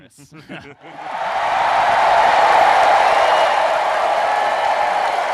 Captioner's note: applause